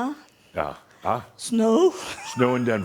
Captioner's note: she laughs